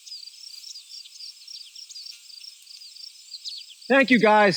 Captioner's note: flies buzzing